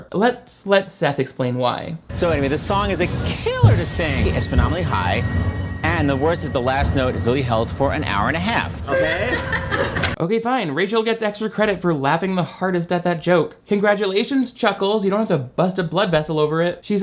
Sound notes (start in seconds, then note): 8.9 laughing